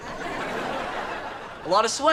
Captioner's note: audience laughter